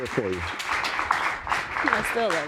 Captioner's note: audience applauding